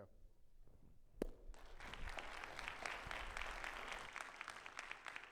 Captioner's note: audience clapping